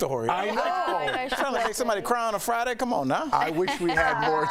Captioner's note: laughter